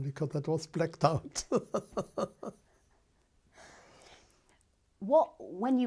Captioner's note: laughs